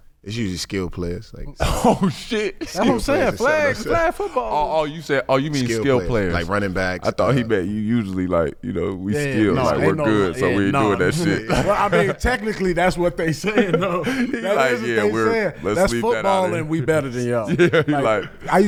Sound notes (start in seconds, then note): 1.6 laughs